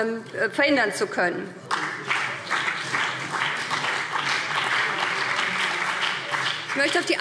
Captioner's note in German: Beifall BÜNDNIS 90/DIE GRÜNEN und CDU